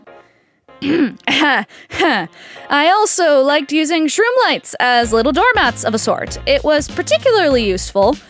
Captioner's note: clear throat